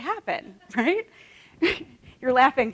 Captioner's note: laughter